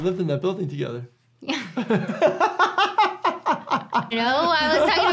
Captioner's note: both laugh